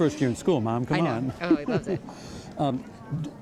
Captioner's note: laughing